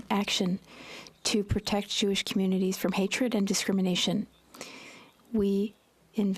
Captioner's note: speaking French